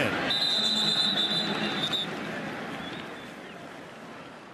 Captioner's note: whistle